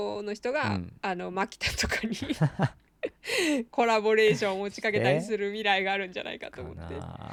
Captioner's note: laughs